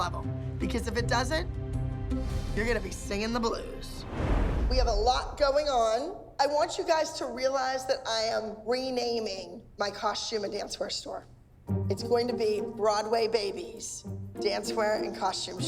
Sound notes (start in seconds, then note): none